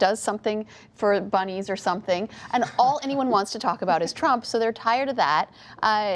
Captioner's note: laughter